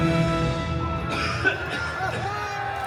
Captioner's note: guests cheering; coughs